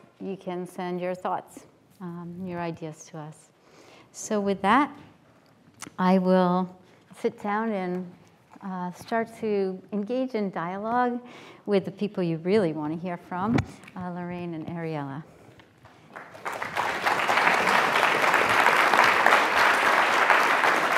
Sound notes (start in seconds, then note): 15.8 applause